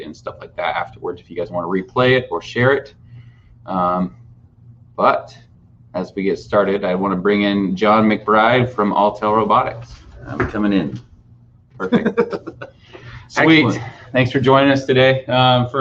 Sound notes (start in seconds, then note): 11.8 laughing